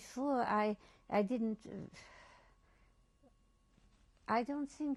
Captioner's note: pauses for 3 seconds